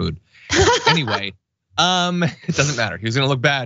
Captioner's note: laugh